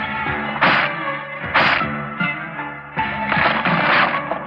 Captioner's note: crunching